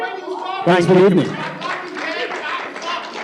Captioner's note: applause; shouting